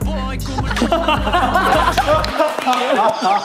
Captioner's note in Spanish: Riendo a carcajadas